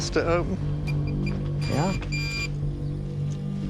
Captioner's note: beeping